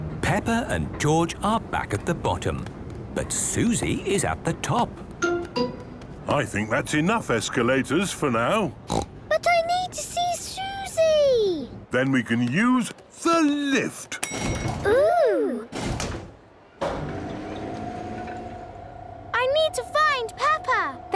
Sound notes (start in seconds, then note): 14.2 lift pings; 16.8 lift moving